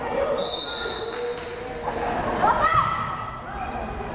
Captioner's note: whistle blares